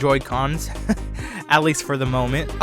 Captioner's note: laughs